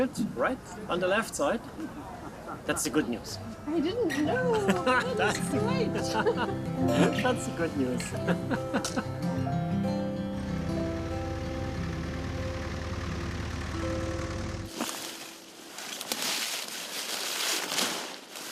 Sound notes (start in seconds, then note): 5.9 chuckling; 9.5 tender music